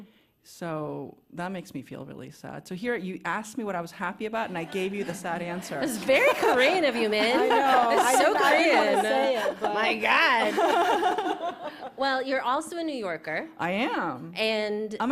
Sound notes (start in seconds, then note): 11.4 laughter